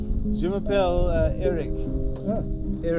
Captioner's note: French